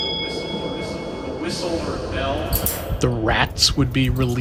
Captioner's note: soundbite of bell